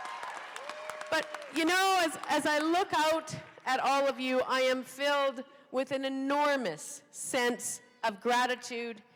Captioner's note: cheering